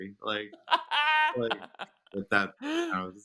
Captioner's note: laughing